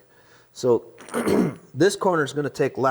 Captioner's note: clears throat